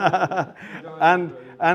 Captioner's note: laughter